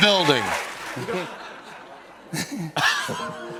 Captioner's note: laughter